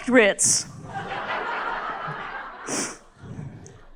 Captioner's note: crowd laughs